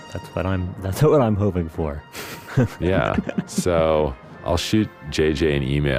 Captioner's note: laughs